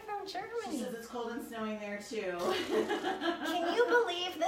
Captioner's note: laughs